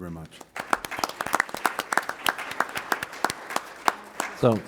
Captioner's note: applause